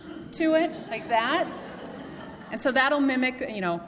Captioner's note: laughter